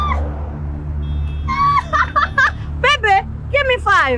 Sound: laughs

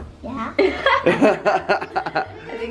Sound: laughter

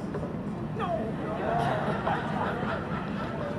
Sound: audience laughs

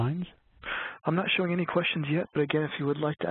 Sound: voiceover

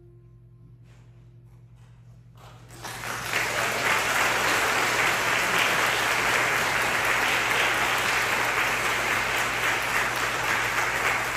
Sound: applause

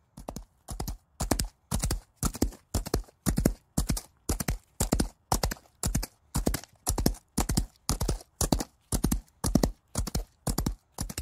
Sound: hoof beat

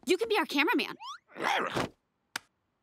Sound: barking

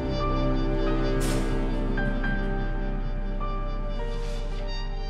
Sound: metal clanging

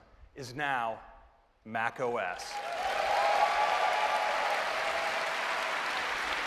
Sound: cheers and applause

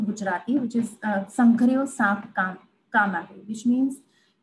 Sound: speaking in foreign language

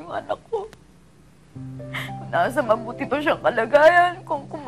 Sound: sobs

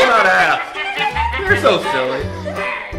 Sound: characters laughing

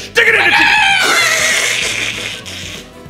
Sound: dying chicken noses

